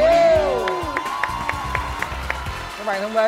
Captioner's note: applause